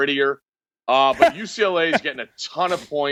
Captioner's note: laughing